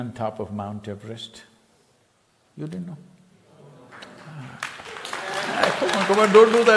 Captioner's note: laughter